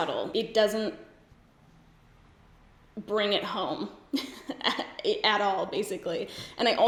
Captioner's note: giggles